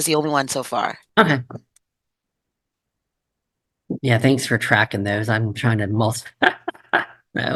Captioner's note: laughs